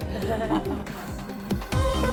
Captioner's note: laughing